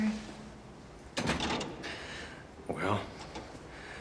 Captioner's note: door creaks